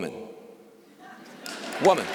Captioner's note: laughter